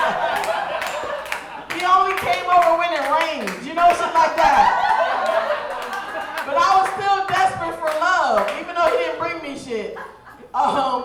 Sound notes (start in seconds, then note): 0.0 audience laughing; 5.3 audience cheering